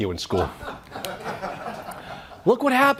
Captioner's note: audience laughs